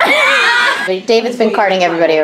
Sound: laughs

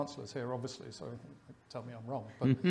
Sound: chuckles

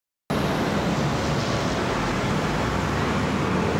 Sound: traffic hums

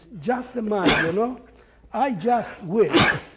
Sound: host sneezes twice

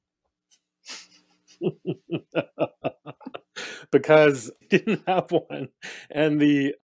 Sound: laughs

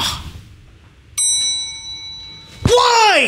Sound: elevator bell

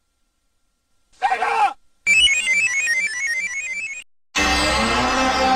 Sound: screaming; 64-bit console startup music; descending video game sounds

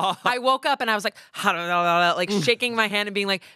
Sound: grumbles

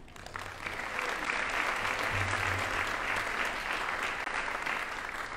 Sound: audience applauding

